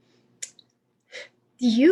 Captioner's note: sigh-scoff